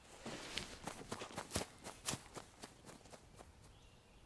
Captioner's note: grass crunching